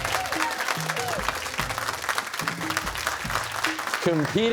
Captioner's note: cheers and applause